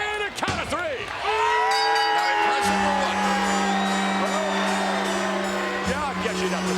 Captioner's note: applause